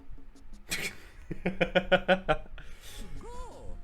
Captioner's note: laughs